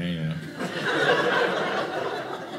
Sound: audience laughing

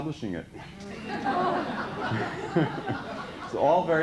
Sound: laughter

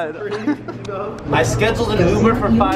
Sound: man happy laughing

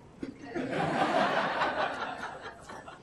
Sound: laughing

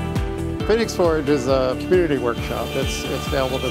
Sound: wood router cutting sound

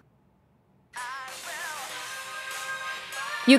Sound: A cellphone's ringtone

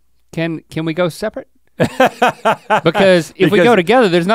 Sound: Rhett laughs

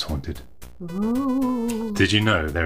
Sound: scary ghost noise

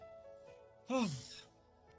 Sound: sighs

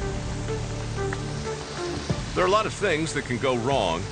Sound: water rushing

